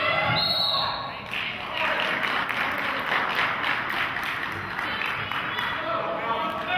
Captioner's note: whistle blows; clapping